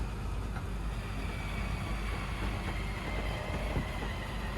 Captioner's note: machine whirring